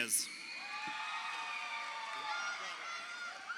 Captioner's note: crowd cheering